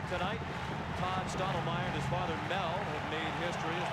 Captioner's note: applause; cheering and Applause